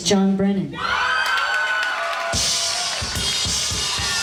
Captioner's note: crowd cheers